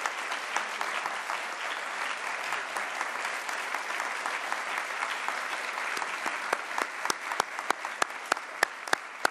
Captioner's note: applause